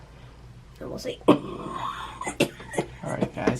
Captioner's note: coughing